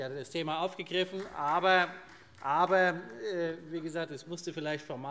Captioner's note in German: Vereinzelter Beifall SPD